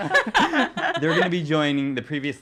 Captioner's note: laughing